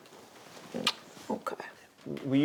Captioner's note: kissing